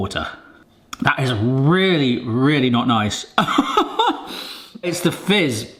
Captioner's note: laughing